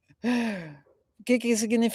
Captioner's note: sighing